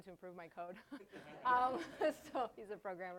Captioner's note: laughter